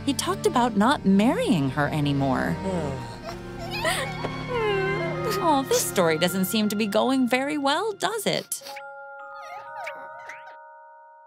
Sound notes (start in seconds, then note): 3.1 crying